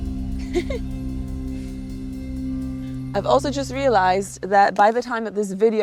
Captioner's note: chuckles